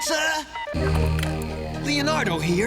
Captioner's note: beeping